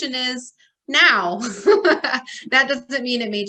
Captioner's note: laughs